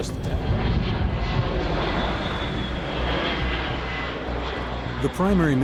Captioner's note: fighter engines roaring; voiceover